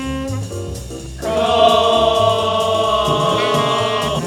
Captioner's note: chanting